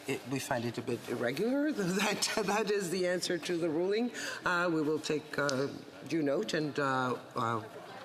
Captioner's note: chattering